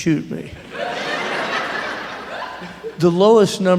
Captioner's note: laughter